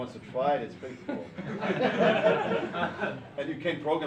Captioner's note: students laughing